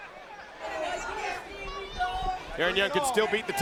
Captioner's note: crowd chatter